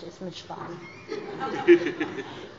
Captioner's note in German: Heiterkeit bei der SPD